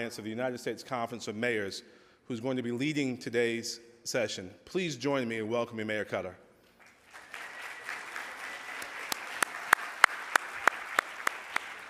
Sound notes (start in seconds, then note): 6.8 audience applauding